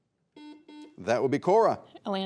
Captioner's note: buzzer beeping